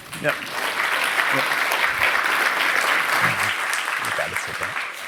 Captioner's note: applause